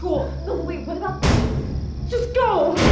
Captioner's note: mysterious knocking